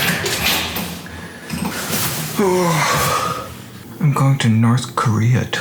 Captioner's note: door opens